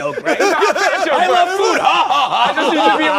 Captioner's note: laughter